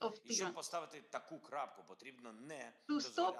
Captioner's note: Volodymyr speaking foreign language